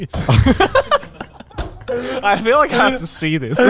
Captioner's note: all laughing